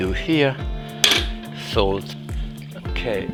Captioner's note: thumping